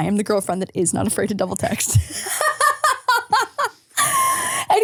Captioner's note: laughs